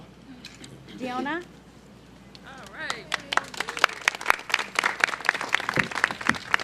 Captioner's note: applause